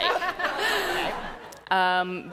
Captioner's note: laughter